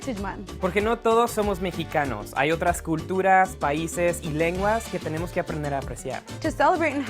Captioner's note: speaking spanish